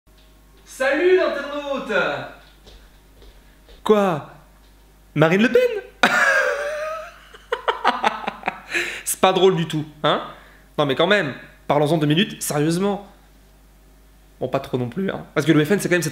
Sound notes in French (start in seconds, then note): 6.0 rires